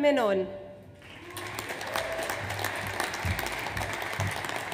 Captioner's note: audience applauds